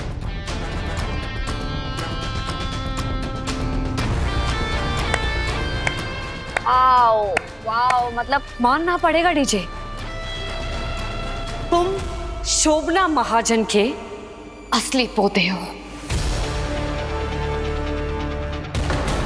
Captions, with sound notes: [pensive music playing] [claps] Wow. I must admit, DJ. You are the true grandson of Shobhana Mahajan.